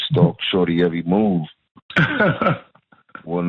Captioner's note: laughter